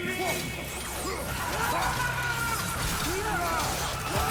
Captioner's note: scream